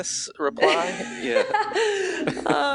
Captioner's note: laughing